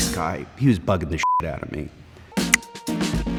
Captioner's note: beep